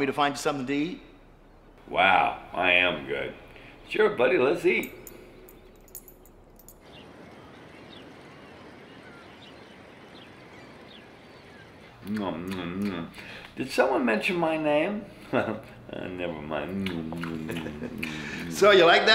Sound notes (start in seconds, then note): 6.9 birds squawking; 15.2 laughs